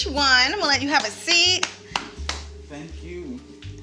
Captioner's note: clapping